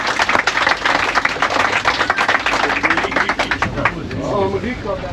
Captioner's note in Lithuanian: Plojimai